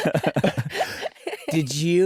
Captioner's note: laughter